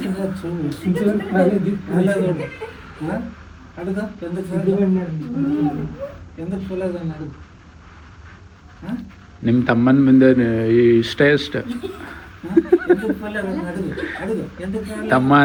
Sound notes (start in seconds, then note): 11.6 laughs